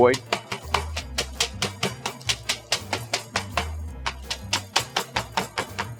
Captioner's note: bright music; mallet banging